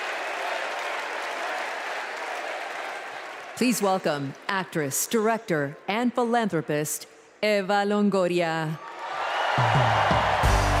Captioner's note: cheers and applause